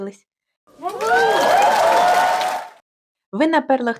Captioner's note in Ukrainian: радісні вигуки та аплодисменти